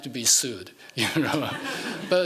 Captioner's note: laughing